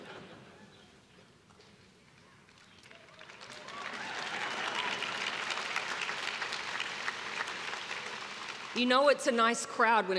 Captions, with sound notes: (crowd clapping) You know it's a nice crowd